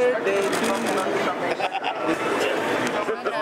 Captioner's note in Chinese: 笑聲